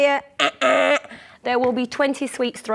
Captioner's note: wrong answer noise